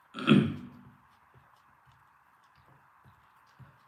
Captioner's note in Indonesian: berdehem